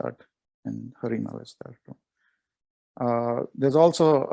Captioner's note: murmurs